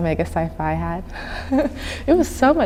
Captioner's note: chuckling